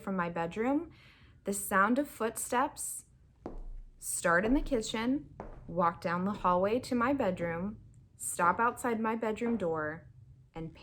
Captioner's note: footsteps